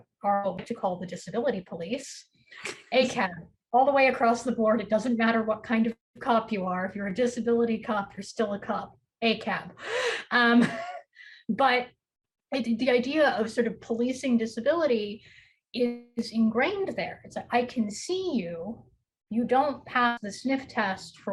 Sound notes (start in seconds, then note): 2.8 chuckles; 10.6 chuckles